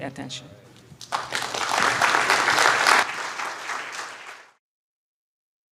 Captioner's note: applause